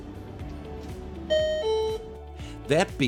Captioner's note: beep